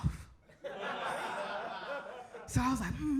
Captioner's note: audience laughs